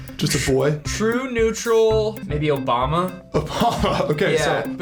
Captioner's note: laughs